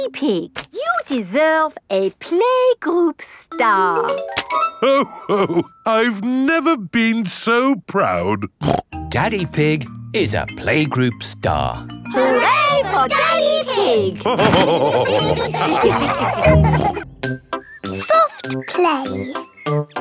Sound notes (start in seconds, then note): 8.5 snorts; 14.2 all laughing